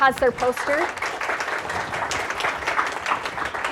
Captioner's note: applause